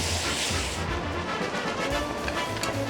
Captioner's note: pouring